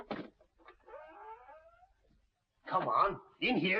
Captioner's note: door creaking